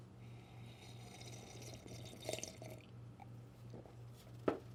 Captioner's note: slurping